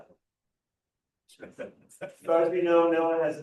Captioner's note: laughter